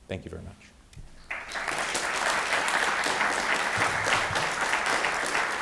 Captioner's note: audience applauding